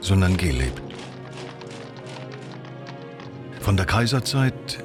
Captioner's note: soldiers marching